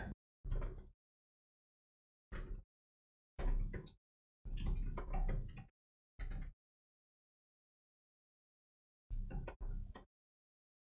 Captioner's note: silence